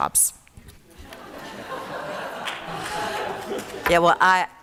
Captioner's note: laughter